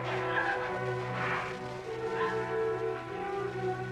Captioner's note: crying, sobbing